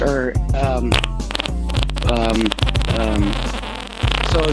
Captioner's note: farting noises